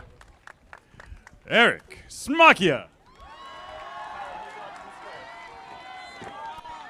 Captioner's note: audience applauding; audience applauding